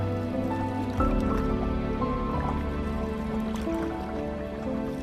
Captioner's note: suspenseful music; water bubbling; suspenseful music